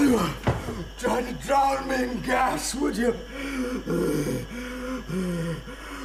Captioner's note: breathing heavily